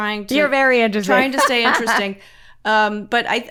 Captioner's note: laughs